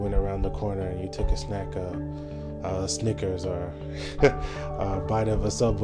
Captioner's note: laughs